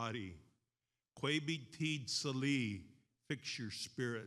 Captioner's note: speaks in foreign language